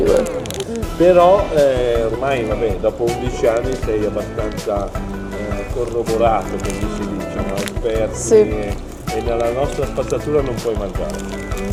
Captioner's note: speaking Italian